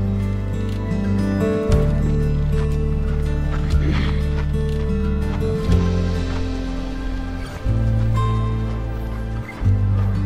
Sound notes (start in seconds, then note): 4.0 footsteps crunching